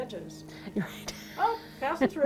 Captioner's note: chuckling